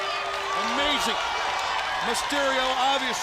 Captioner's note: crowd cheering